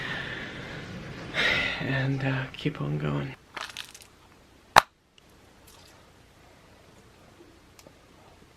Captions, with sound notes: And keep on going. [pill case clicks]